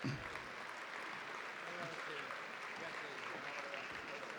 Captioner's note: audience applauding